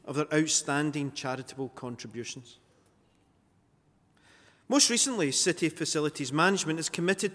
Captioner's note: none